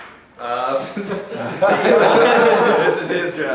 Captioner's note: huge laughter